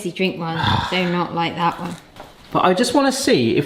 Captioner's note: sighs